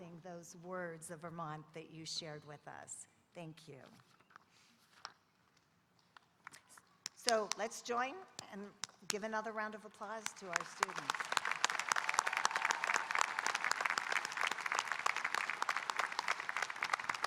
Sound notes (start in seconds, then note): 10.3 audience applauding